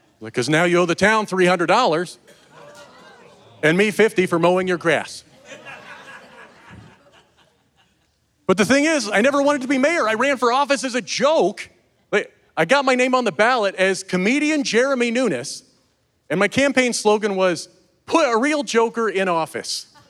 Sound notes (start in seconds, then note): 2.6 some audience member laughs; 5.2 audience laughing